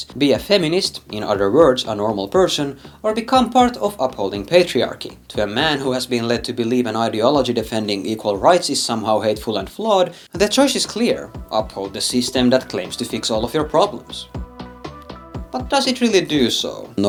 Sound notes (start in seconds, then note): none